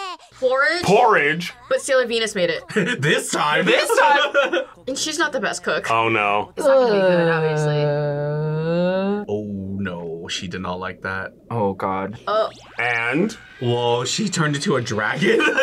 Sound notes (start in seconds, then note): 3.4 laughs; 3.6 chuckles